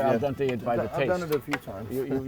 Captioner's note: laughs